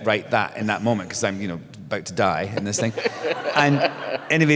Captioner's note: laughter